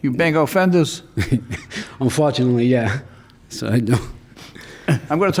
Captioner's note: chuckling